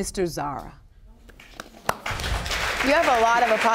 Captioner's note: audience applauding